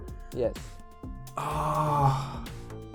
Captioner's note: groans